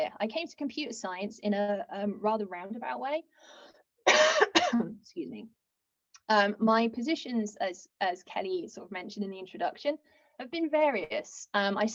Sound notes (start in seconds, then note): 4.0 coughs